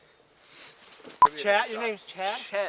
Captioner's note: frame beeping